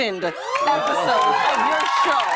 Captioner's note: cheers and applause